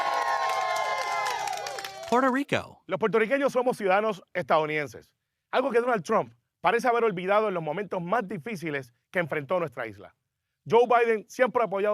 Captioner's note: cheering